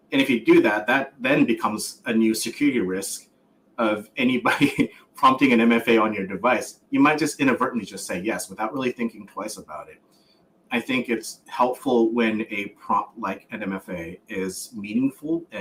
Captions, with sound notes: And if you do that, that then becomes a new security risk of anybody prompting an MFA on your device. [laughs] You might just inadvertently just say yes without really thinking twice about it. I think it's helpful when a prompt like an MFA is meaningful